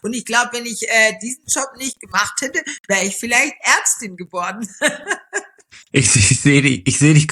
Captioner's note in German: gelächter